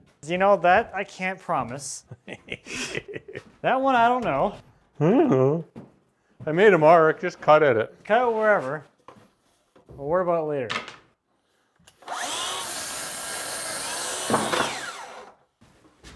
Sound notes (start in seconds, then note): 2.2 laughs; 11.9 sawing sounds